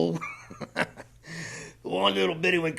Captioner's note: laughs